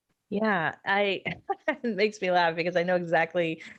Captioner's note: laughing